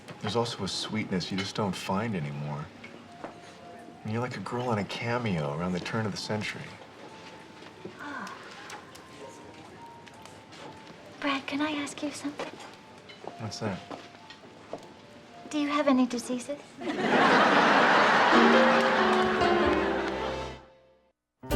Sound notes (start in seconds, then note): 16.8 audience laughs